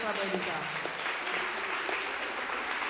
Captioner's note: applause